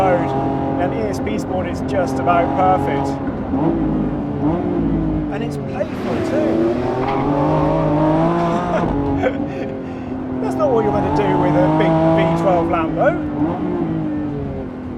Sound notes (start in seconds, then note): 6.9 car engine roaring